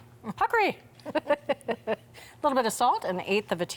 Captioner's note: smacks lips; both laughing